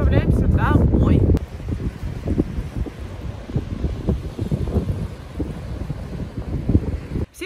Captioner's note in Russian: шум прибоя